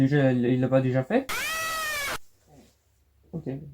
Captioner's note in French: crie d’Alex Kidd